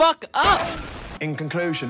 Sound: explosion

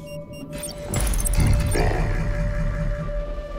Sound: robot voice

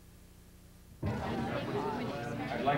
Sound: background chatter

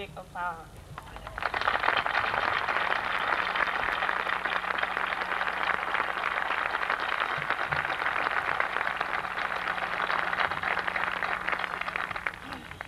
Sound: applause

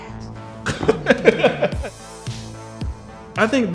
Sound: laughter; dramatic techno music

